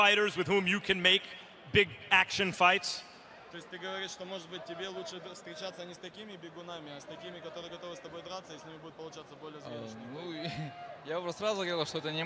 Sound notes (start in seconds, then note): 3.3 speaking question in foreign language; 9.5 answering in foreign language